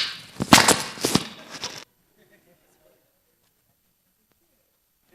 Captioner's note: microphone adjustment